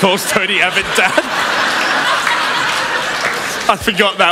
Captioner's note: laughter